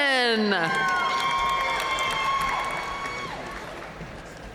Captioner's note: audience cheering and applauding